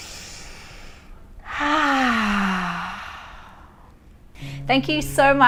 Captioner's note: inhaling and sighing